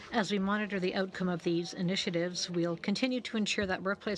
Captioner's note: speaking French